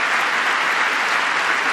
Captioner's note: applause